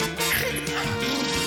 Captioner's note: blubbers lips; snorts